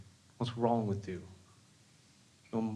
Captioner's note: none